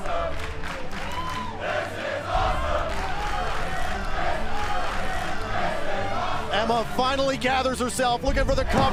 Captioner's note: crowd cheering